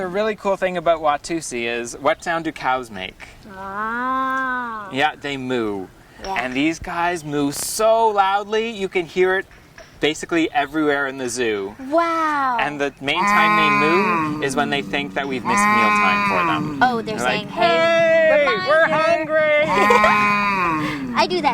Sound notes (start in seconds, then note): 15.5 moo sounds in the background